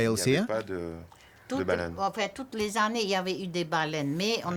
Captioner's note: speaking French